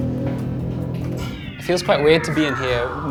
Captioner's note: system powers down